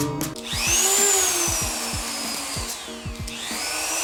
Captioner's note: sander whirs